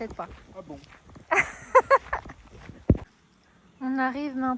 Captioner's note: laughs